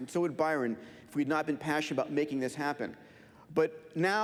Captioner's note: none